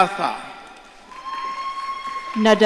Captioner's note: audience cheering